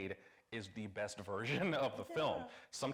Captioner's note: chuckles